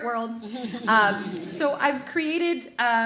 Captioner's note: audience laughs